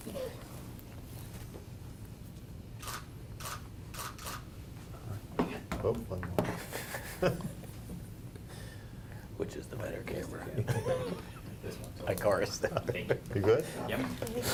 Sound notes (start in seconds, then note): 3.9 camera clicking; 6.4 laughter; 10.4 laughter